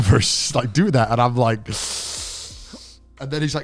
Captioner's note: inhaling sharply